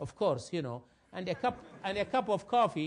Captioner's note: laugh